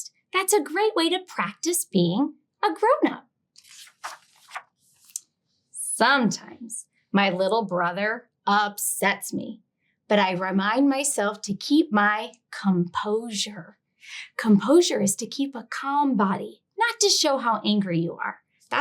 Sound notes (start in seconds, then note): 3.6 page rustling